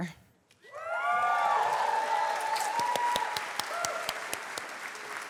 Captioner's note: cheers, applause